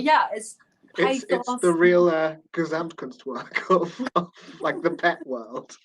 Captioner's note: laughing